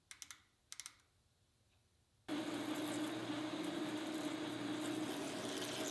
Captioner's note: dial clicking; machine whirring